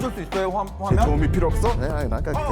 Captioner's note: explosion sound effect